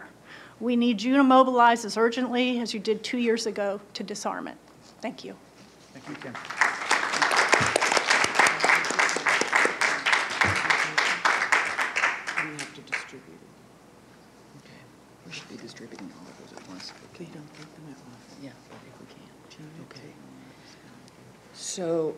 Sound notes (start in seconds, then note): 7.7 applause